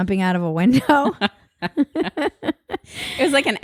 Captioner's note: both laugh